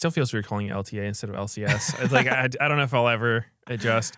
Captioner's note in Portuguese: risos